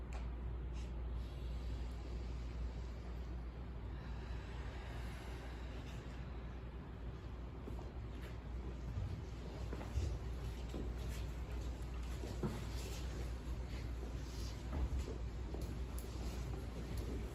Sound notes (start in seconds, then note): 0.9 inhale; 3.7 exhale